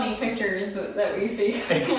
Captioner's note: laughing